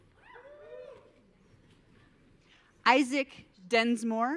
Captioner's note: audience cheering